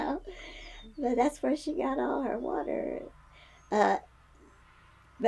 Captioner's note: laughs